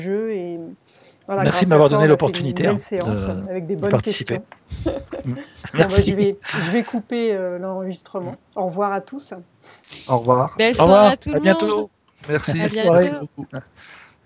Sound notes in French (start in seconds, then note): 4.7 rires